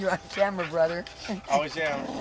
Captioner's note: laughing